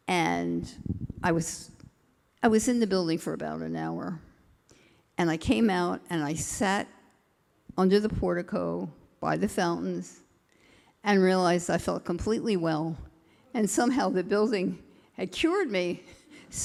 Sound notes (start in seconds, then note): none